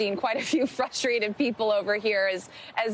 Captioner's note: laughter